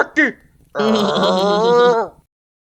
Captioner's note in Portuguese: Raiva e risadinha